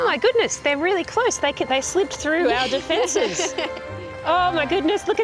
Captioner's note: laughs